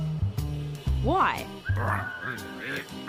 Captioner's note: mutters